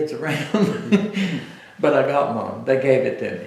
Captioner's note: laughter